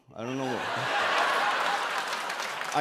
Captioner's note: laughter